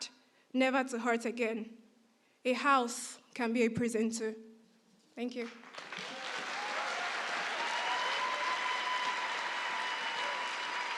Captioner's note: applause